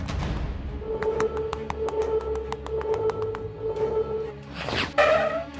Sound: alarm

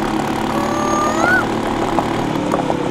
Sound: mimicking cuckoo's voice

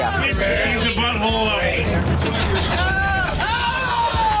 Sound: shouting

